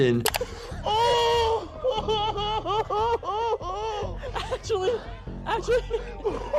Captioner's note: moaning